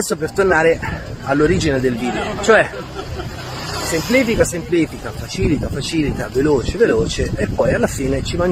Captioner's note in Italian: risate